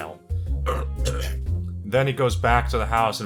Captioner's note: Belch